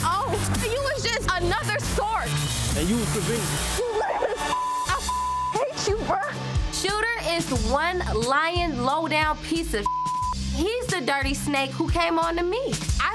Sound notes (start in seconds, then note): 4.5 beep; 9.6 beep